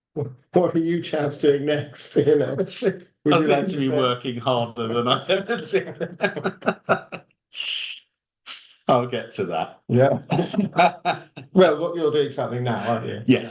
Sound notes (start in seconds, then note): 6.6 laughs